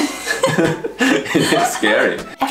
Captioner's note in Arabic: يضحك